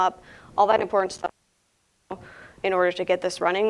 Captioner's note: audio briefly cuts out